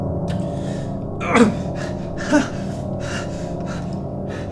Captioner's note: groaning